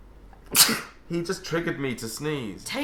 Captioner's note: sneezes